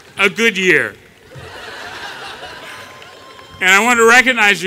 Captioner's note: laughter